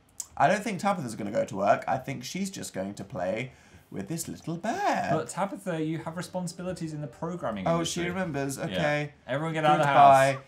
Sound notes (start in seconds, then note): none